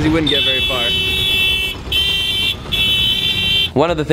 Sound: horn honking

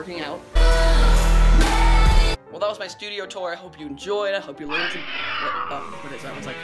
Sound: death creature noice

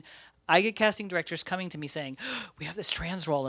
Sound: gasps

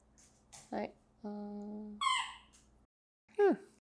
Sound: Miso squeaking away w her toys in the background lol

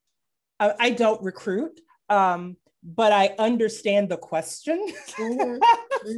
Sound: laughing

